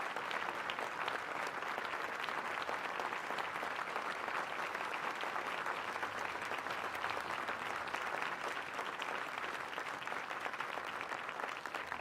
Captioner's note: applause